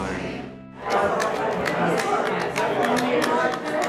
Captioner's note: rhythmic tapping